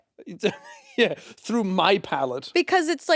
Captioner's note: chuckles